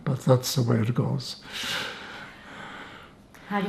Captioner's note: laughing